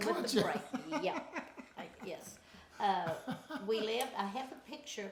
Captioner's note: laughing